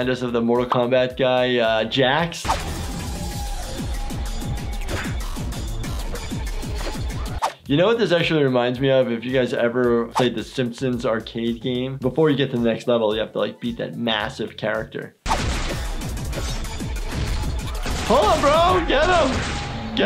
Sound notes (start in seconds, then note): 2.5 active music; 15.2 gun shots; 15.6 active music